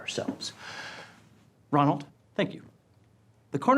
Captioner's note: breath